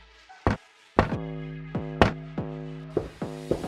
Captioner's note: knock on the door